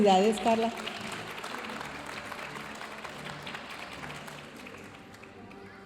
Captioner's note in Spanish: aplausos de la audiencia